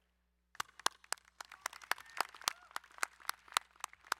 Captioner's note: applauding